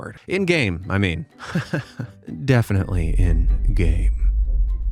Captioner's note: laughs